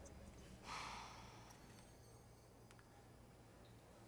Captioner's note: Kelly sighs